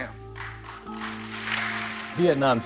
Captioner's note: audience applauding